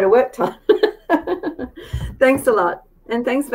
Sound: laughs

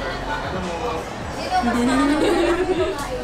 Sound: nervous laughter

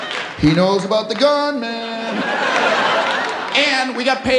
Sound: laughter

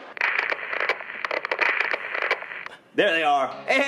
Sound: static sound

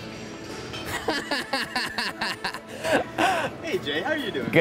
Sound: laughter

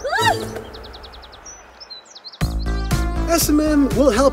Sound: yelping

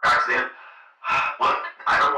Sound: sarcastically; sighs

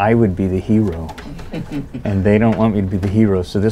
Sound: soft laughter

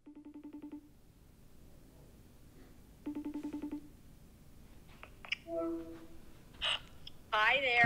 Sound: internet phone call ringing

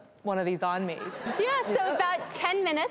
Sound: audience laughs

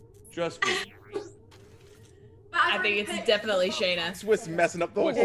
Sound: laugh

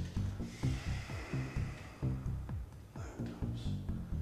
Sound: Dave sighs

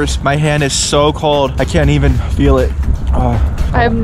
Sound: sighs

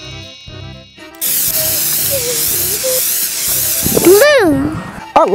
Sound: twinkling; can spraying

